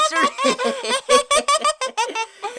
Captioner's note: chuckles